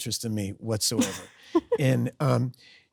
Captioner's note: Sydney laughs